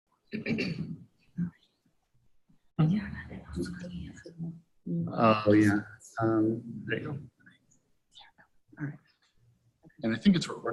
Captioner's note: crowd Chattering